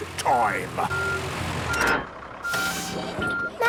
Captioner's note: beeping, hydraulic noises